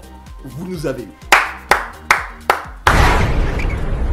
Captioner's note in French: applaudissement